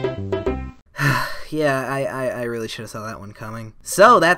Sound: sigh

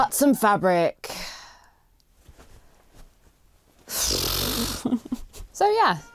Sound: sighs and blows raspberry

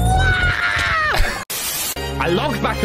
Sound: wheeze; tv static noise

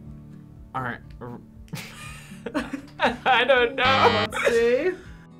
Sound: laughs; buzzer

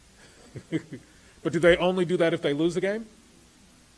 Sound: laughs

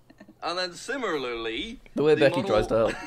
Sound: laughs

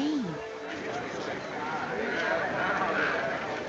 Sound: indistinct chatter

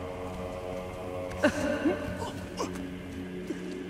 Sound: crying

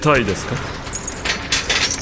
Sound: chains rattle

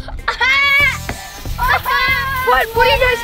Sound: everyone yelling

